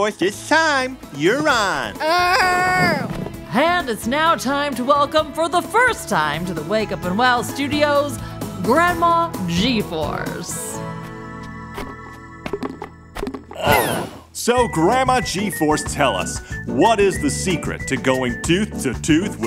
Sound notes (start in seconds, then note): 8.7 soundbite of plopping down on couch/chair; 8.7 soundbite of squeaks